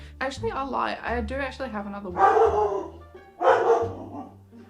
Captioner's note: barking in background